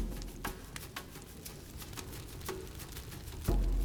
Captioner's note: fire crackling